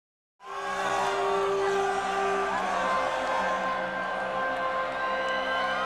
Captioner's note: crowd cheering; dramatic orchestral music